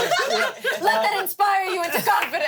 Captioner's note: everyone laughs